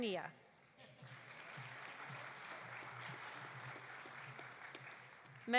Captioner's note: audience applauding